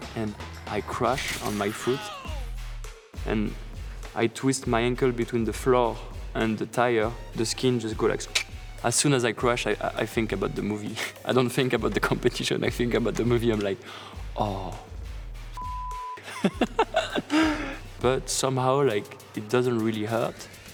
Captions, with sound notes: and I crashed on my foot. And I twist my ankle between the floor and the tire. The skin just goes like... As soon as I crash, I think about the movie. I don't think about the competition. I think about the movie and I'm like, Oh... F***! [LAUGHING] But somehow, like it doesn't really hurt.